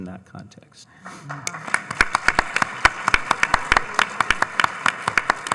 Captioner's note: audience applauding